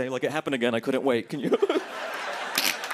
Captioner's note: laughter